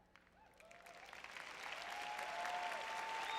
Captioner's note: audience cheering; audience applauding